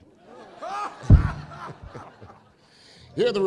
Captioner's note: laughter